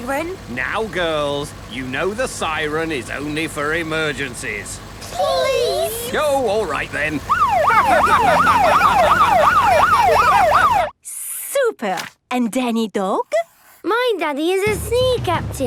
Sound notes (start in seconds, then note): 7.2 siren wailing; 8.8 laughing